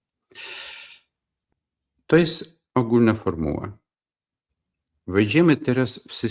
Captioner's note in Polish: wciągnięcie powietrza